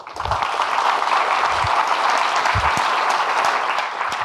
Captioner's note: audience clapping